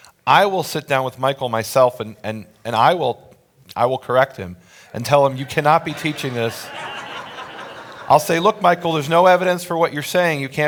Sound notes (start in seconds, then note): 6.7 audience laughs